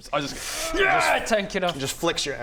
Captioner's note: hrrrgh